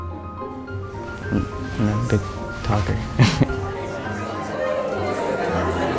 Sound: cheerful music continues; laughs

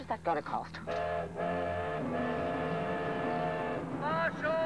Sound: train horn

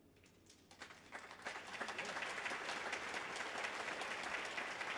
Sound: audience applauds

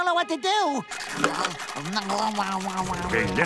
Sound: chomping

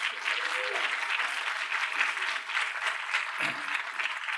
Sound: applause

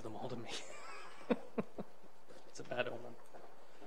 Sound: laughs

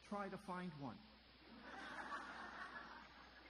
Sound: audience laughter

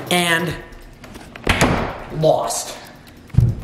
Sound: door thuds; footsteps stomping on floor

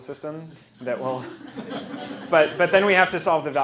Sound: laughter

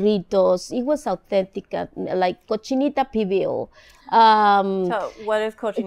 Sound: speaking in foreign language

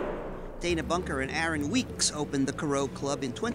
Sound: cracking

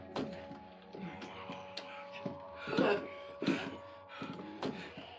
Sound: snarling; thumping

